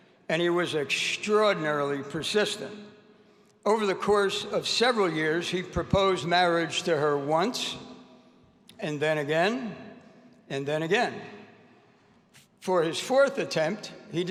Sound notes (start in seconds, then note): none